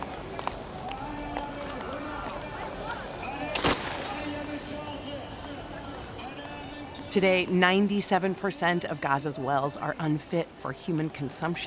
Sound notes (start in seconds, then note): 0.5 man speaking on loudspeaker in distance; 3.5 gun fires